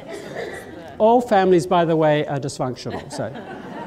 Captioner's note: laughter